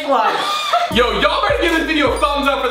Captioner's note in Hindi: समूह हंसते हुए